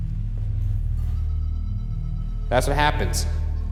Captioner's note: device beeping